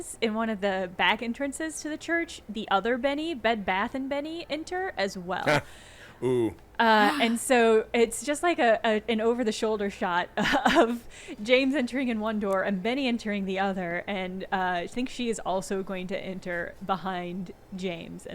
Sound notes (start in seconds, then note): 5.4 gasping